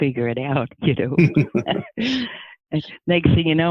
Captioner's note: laughing